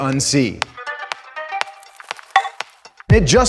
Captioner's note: bright electronic tones